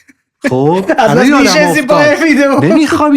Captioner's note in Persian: خنده